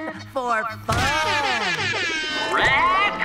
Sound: horn blaring

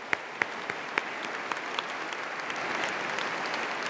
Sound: applause

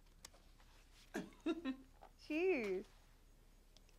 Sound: laughs

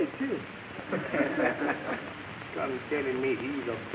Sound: audience laughing

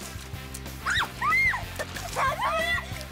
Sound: screaming

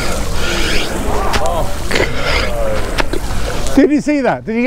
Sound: crowd murmers appreciation

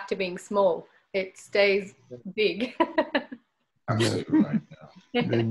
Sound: laughs

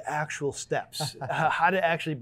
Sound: laughing

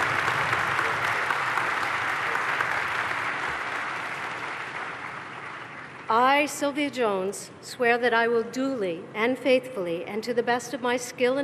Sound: cheers and applause

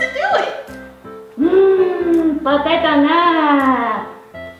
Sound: minion sounds

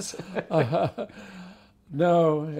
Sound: chuckles

